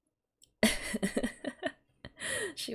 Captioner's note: laughs